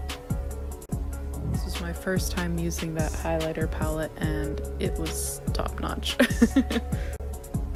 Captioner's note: giggles